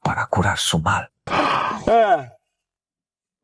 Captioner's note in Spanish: Suspiro